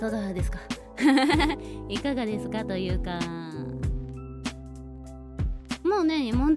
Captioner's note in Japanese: 笑い